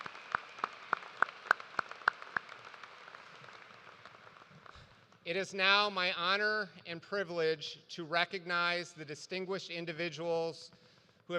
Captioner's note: applause